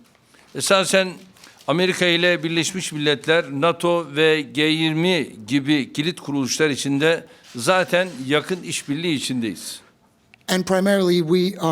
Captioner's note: speaking Turkish